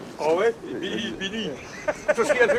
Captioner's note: laughing